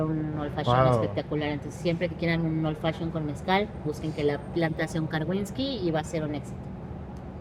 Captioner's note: speaks Spanish